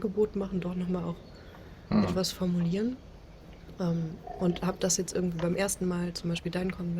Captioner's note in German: räuspern